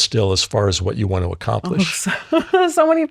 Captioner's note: laughs